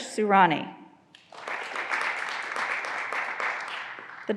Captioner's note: graduands applauding